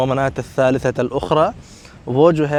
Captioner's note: Arabic